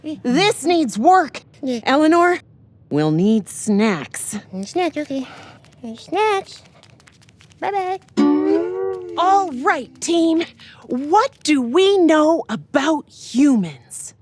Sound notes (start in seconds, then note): 4.5 in Derp-lish; 7.5 Scavanges in Derp-lish